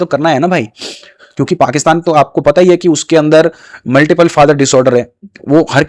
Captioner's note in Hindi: नाक से की जाने वाली आवाज़